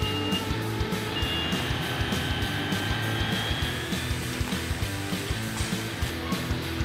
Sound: upbeat rock music; machine screeching

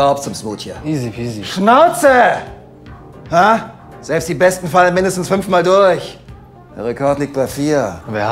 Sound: shouts

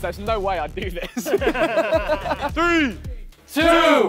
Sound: contestants laughing

